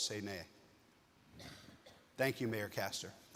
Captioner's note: attendee coughing